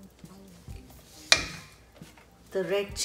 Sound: splashing; spoon knocking

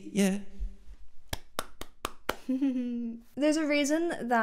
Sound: clapping

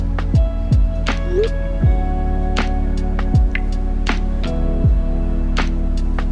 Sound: beeping bubble message tone

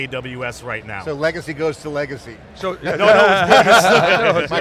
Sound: laughter

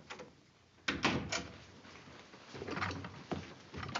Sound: door closes

